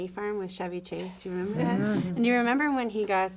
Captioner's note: attendee chuckles